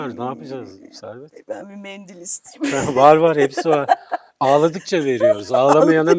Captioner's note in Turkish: kahkaha